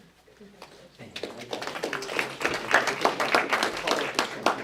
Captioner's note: applause